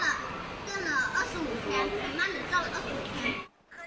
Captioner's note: Mandarin